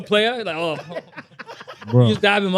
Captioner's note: laughing